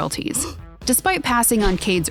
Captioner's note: person gasping